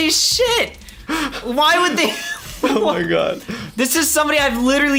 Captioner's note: laughs